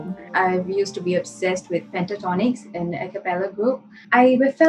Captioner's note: none